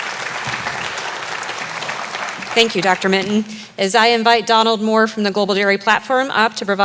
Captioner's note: applause